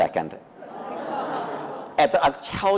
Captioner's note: audience awwing